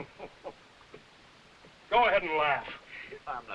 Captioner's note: chuckling and coughing